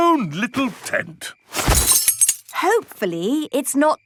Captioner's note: clang-ruffle-thump